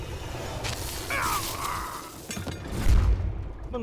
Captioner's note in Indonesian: Phaeton mengerang